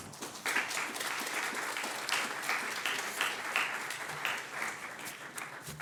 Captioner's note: audience applauds